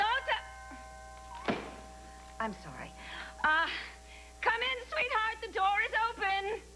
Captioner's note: doorbell rings